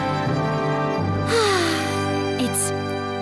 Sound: sigh

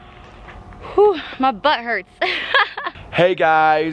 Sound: laughs

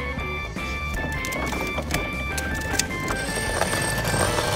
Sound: wheels rolling; scooter engine humming

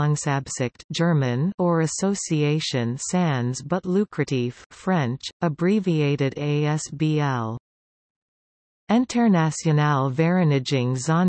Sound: German

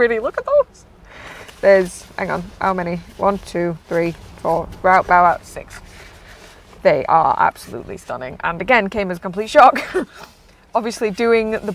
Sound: laughs

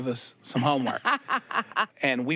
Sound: Shirley laughs

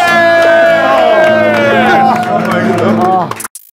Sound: all is cheering

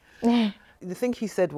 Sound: chuckles

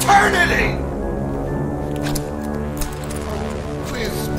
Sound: zipper unzipping, Belt jingling

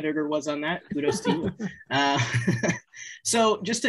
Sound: laughing

